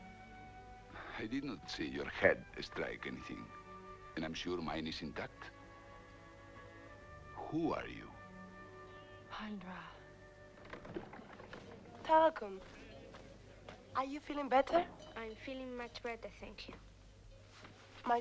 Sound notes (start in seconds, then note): 10.6 door opens